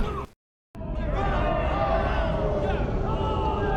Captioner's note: cheering